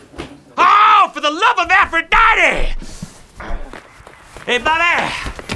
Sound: yelling

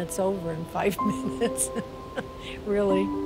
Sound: chuckles

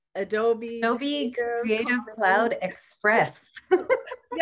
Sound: laughter

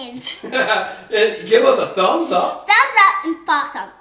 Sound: laughs

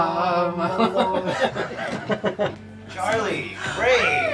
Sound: both laugh

